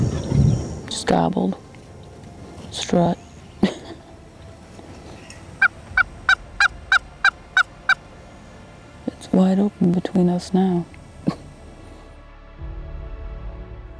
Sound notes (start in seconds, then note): 5.4 turkey calling